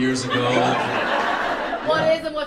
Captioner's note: audience laughs